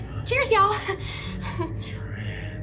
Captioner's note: Allie chuckles